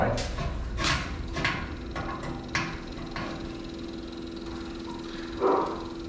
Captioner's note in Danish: hvirrende støj